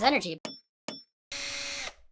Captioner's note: hammer tapping; drill whirring